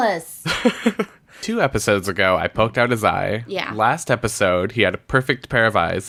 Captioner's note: laughs